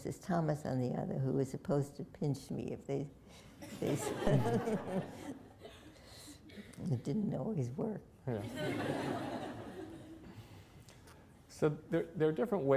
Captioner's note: laughter